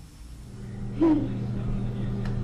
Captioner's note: giggles